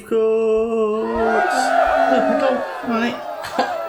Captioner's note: cheering